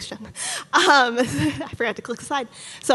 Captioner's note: laughing nervously